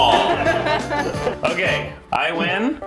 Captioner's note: laughter